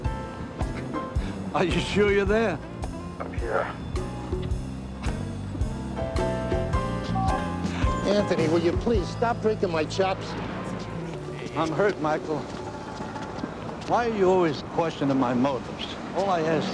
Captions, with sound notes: ARE U SURE YOU'RE ERE? I'M HERE. [KISSING] ANTH WILYOPLEASE STOP BREAKING MY CHO? I'M HURT, MICHAEL. WHARE YOU ALWAYS QUESONING MYOTIVES? L I KED YOU FOR